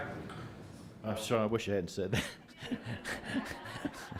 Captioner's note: laughter